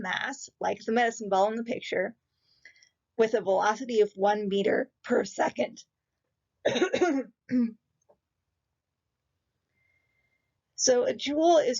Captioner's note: clears throat